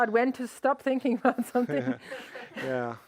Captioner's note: laughs; audience laughs